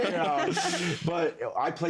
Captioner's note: all laughing